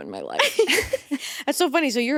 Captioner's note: both laughing